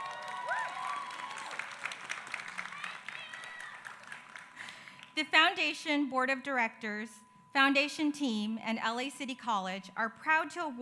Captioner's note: applause